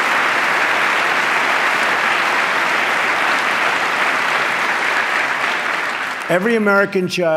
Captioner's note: applause